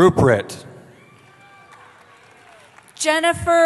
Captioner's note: cheering